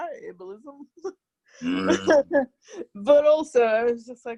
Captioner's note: both laugh